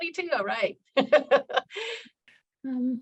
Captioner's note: laughing